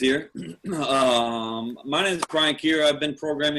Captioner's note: cough